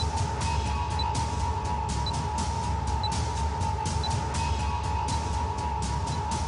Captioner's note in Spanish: Bip intermitente